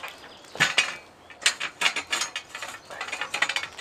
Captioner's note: birds chirping